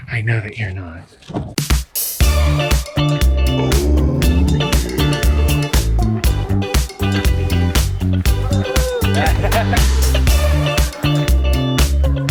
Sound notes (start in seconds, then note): 2.1 upbeat music; 8.2 laughs